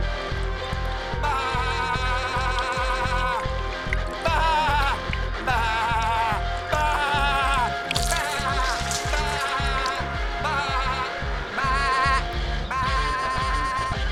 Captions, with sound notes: Baaa. Baaa. Baaa. Baaa. (wet squish) Baaa. Baaa. Baaa.